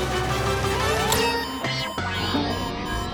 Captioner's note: beeping